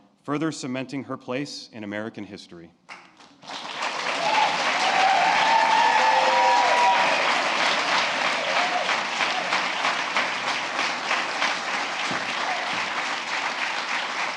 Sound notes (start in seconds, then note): 3.1 applause